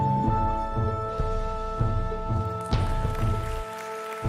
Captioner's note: audience clapping